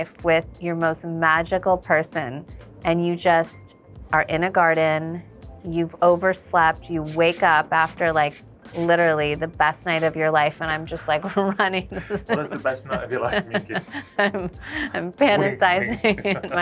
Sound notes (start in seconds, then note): 13.8 Kim chuckles